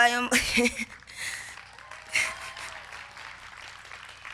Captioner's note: laughs; crowd clapping